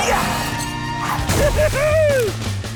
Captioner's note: laughing